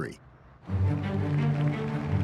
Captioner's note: applause